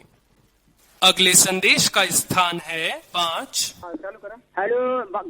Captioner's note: automated Voice; speaking in foreign language